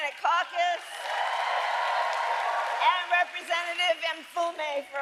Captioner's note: applause